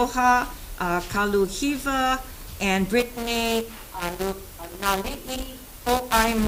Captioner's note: microphone distorts